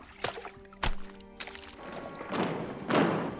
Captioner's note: heavy footsteps approaching